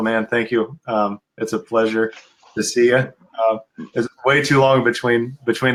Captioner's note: laughs